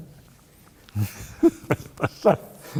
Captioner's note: laughter